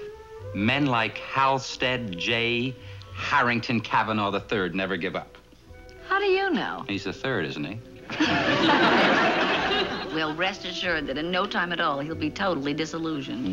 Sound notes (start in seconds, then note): 8.1 Ann laughs